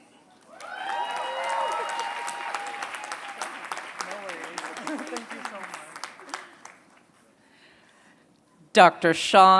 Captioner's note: applause